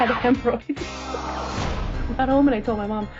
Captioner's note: laughing